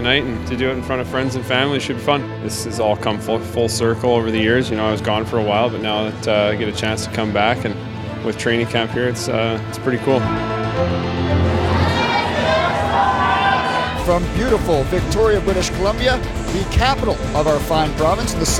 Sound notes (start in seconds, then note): 11.2 crowd yelling